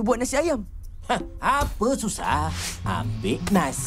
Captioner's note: scoffs